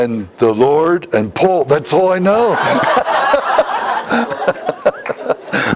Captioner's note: Смех